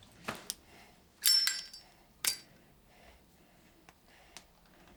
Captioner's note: lighter clicking